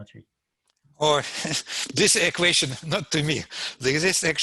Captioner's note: laughs